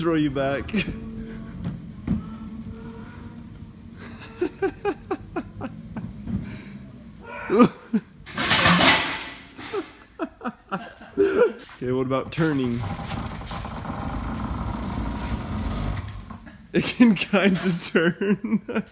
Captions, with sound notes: It's gonna throw you back. (laughing) (crash) Okay, what about turning? It can kind of turn.